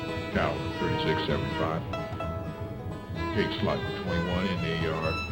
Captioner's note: voiceover